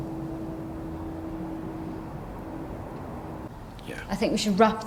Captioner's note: groaning faintly